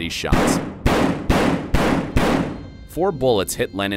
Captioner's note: gun shots